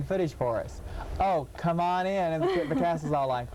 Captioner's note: laughing